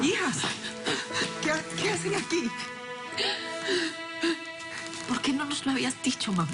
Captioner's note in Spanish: Sollozos